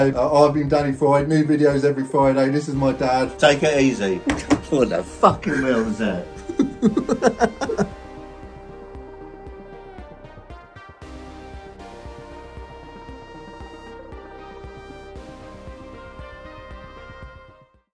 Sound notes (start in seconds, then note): 5.3 laughing; 8.4 lo-fi music